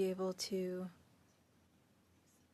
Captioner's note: speaking French